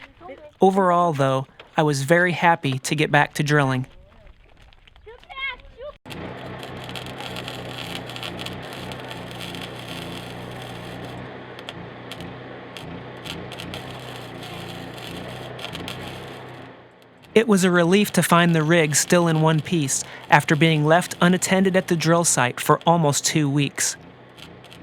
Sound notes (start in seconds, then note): 5.9 crackling sounds of welding